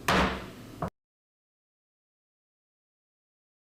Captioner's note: gavel bangs